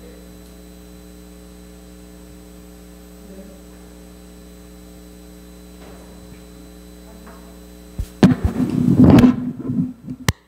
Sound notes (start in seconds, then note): 8.1 microphone bumping